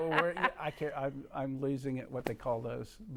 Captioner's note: laughing